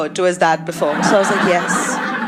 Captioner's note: audio of pre-vomit gullet